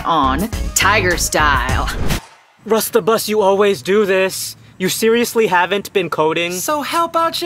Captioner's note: "flashback" sound